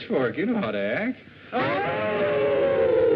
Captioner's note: howl